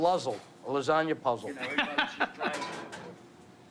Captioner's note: laughs